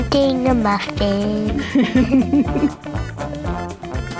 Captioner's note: laughs